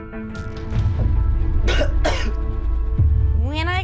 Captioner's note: coughs